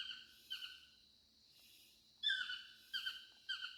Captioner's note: bird chirping